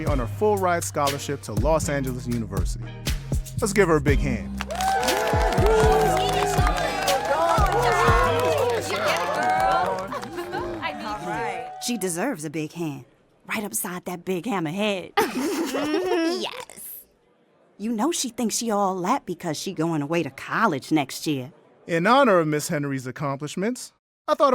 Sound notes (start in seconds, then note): 4.6 class applauds; 15.2 Sharkita's friends snicker